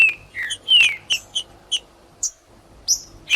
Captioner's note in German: trinca ferro cantando